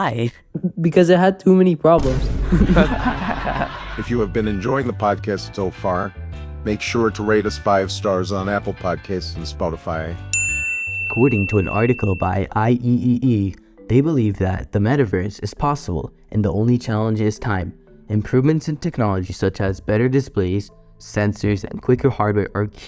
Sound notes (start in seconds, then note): 2.4 chuckles